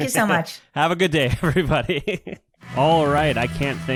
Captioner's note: laughs